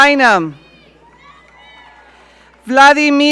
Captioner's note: audience cheering